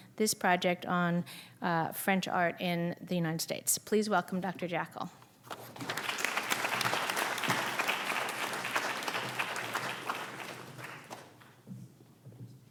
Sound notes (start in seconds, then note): 5.6 audience applauding